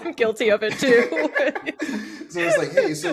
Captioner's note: all laughing